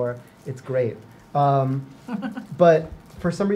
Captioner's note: woman laughs